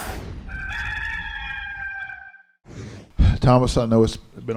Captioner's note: rooster crows